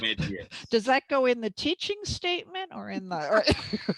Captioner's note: laughter